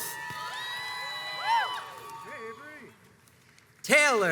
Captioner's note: crowds cheers and applauds